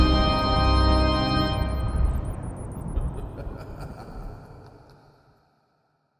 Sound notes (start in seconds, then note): 0.0 spooky magical music continues; 1.7 bats squeaking; 2.9 scary laughter echoes